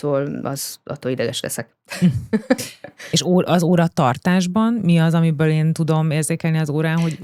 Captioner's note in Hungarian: nevetés